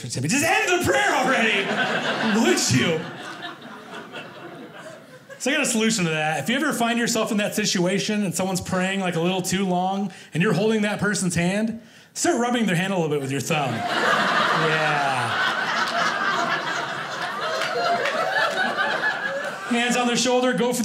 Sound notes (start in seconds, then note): 3.2 audience laughing; 13.6 audience laughing